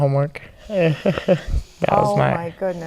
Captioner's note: laughing